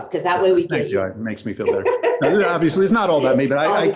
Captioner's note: laughs